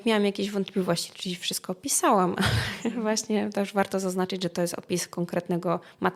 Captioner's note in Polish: śmiech